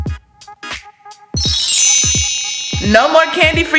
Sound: wand chimes

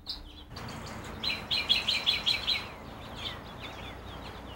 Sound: birds chirping

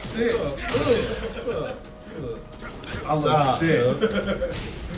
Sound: laugh

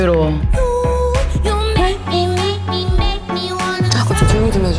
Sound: humming humming

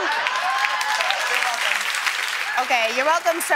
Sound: cheers and applause

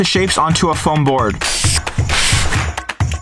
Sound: spray hissing; upbeat music

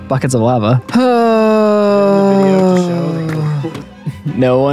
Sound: long sigh

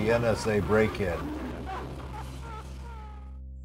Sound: woman crying

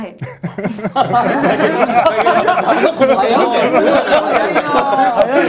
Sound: laughter

